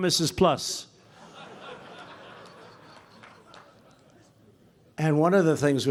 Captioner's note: laughter